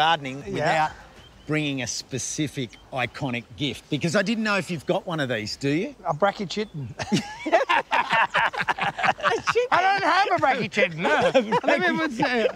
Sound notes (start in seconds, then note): 6.9 both laugh